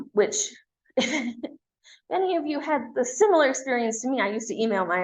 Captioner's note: chuckles